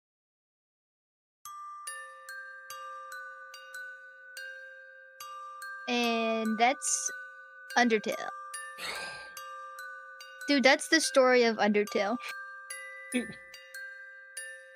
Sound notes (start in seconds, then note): 1.4 gentle music; 8.8 sighs; 13.1 laughs